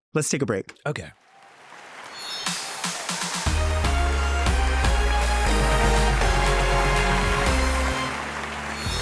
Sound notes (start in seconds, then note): 1.2 audience applauding; 2.4 upbeat music